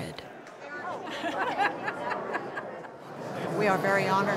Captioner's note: people laugh